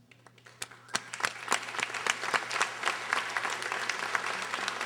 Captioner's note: audience applauding